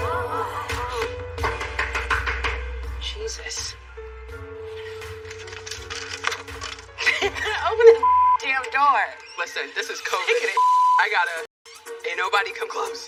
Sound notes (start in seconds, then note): 1.4 knock on doooor; 7.0 both h laugh